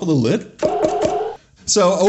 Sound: boing! boing! boing!

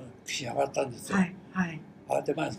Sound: foreign language

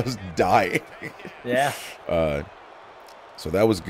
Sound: laugh

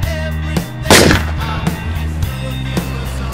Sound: loud gunshot

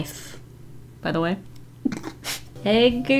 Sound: chuckles

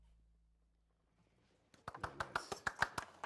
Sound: applauding

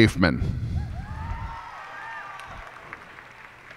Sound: cheers and applause

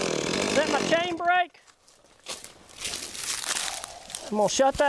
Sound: chainsaw

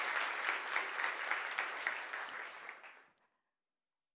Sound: applause

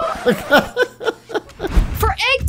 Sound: religious music; DJ laughing

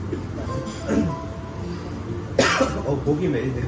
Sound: cough

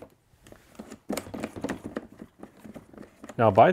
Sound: hand knobs squeaking

